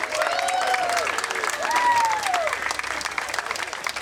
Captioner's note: crowd cheering